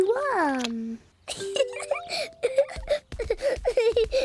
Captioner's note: laughs